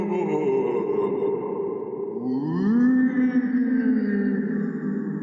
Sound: ghostly moaning

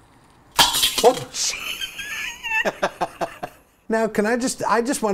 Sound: metal bowl hit / water splashes

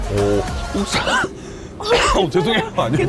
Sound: coughing

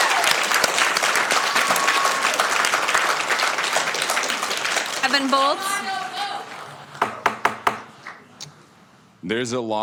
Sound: applauding

